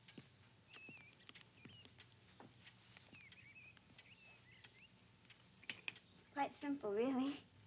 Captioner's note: birds chirping; clock ticking